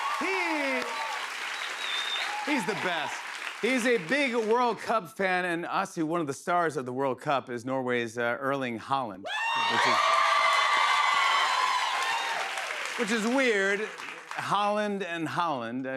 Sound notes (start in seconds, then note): 9.2 cheers and applause